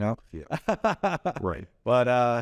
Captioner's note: laughs